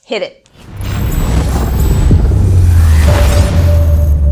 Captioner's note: thundering sounds